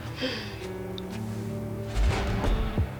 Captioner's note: gasps